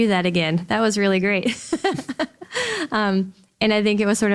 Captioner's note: laughs